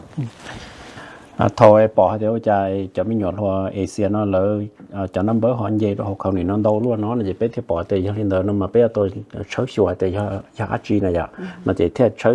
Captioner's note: Speaking in Hmong